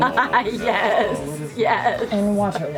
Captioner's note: laughs